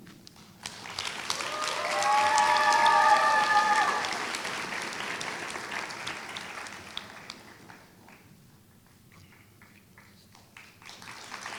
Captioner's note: applause